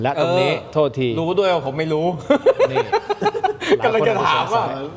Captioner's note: laughter